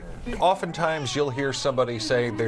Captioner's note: baby crying